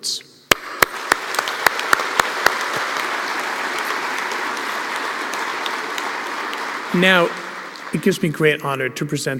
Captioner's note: applause